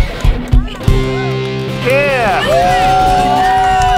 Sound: applauds

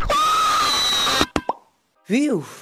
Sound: screams

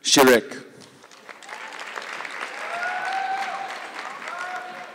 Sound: audience clapping

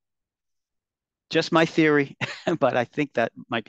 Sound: chuckles

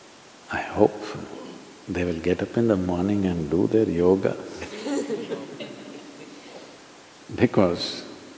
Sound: laughter

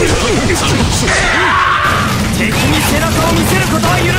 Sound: death Scream

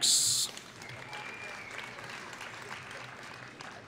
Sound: applause

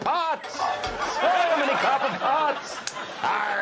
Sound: audience laughing

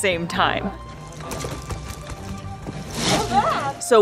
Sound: background music; thumping sound of otter banging their stomach; background music; crunching sound of otter rolling in ice

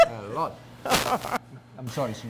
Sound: laughter

